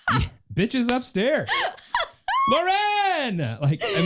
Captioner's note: laughing